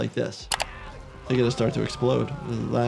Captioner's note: screen clicking